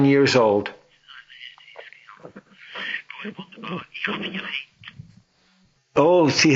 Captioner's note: speaking Swiss German